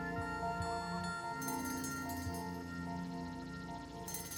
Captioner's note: bell rings